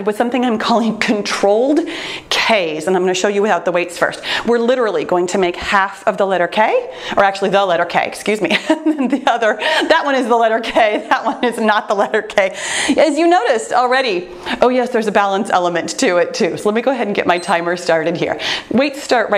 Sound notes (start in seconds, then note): 8.4 laughs; 17.3 timer beeps once